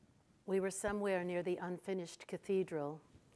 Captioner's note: none